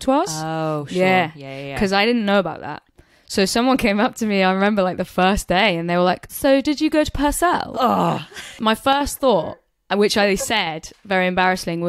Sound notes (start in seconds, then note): 6.1 posh accent; 7.7 groans